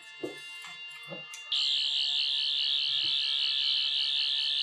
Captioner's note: buzzing